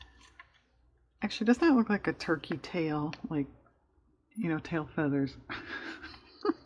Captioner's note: laughs